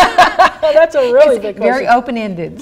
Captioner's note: laughing